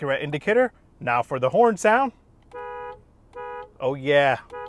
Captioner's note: horn beeps